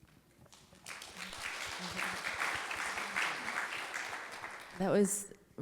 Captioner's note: audience clapping